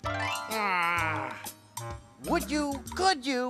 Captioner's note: squawking